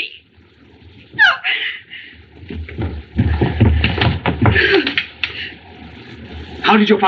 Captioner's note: gasps